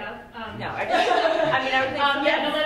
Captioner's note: laughs